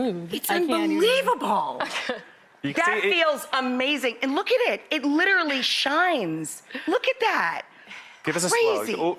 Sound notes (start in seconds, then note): 1.7 laughs; 6.2 laughs